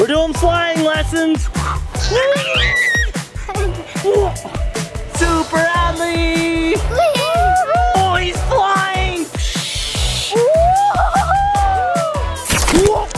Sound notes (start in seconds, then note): 1.9 screeches excitedly; 3.5 laughs; 9.3 imitates swooshing; 12.9 yells